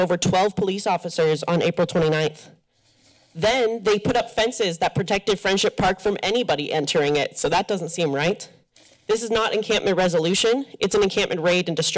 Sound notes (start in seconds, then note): 5.6 exhales deeply